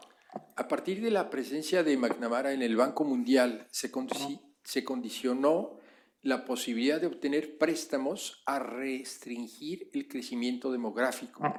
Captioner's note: speaking spanish